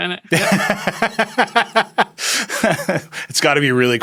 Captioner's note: Nilay laughing